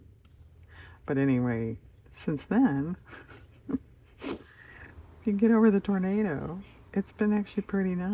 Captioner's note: laughs